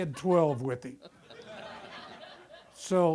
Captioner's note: audience laughter